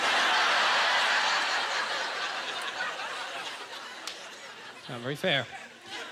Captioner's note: audience laughter